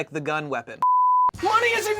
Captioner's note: continuous beeping